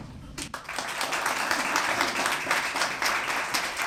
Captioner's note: applause